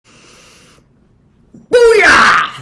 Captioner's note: inhales deeply